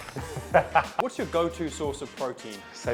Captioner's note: laughs